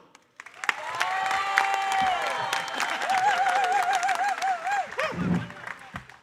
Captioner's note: audience cheering and applauding